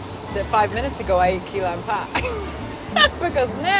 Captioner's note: chuckles